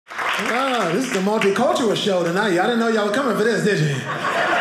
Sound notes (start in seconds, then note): 0.1 audience cheering; 3.6 audience laughing